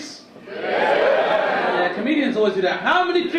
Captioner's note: audience cheer